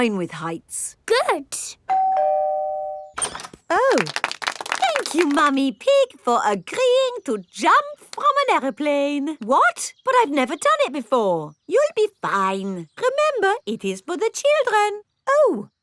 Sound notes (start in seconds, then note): 1.9 doorbell ringing; 3.8 crowd applauding